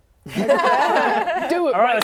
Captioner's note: laughing